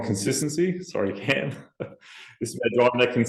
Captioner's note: chuckles